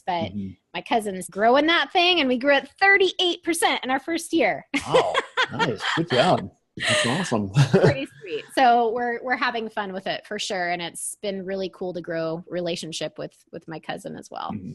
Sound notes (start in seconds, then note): 4.7 laughs